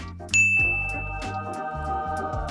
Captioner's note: bell dings; angels sing